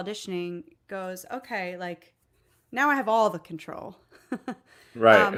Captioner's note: laughs